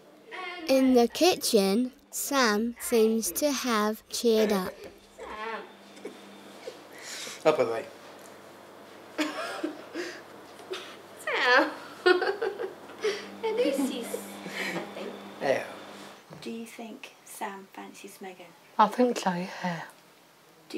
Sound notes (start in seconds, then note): 5.9 laughs; 9.2 giggles; 12.0 laughs